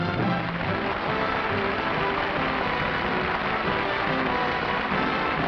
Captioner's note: applause